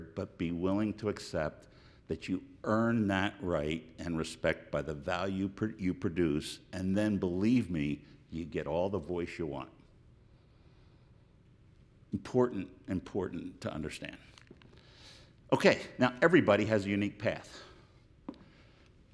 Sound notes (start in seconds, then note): none